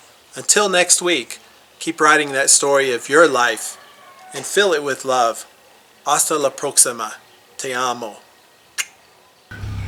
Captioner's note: kissing sound